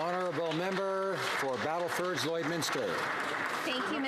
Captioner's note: some Applause